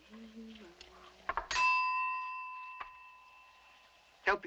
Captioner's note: rings bell